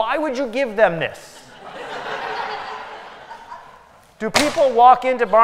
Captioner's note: laughter